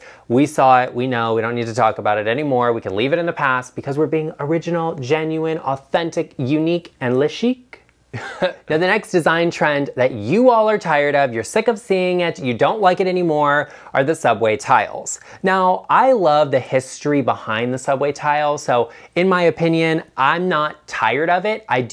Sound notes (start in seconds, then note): 8.1 chuckles